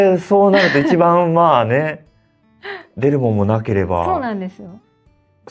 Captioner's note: laughs